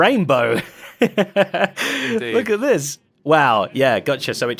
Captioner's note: laughs